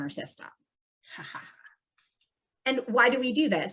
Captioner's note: student laughs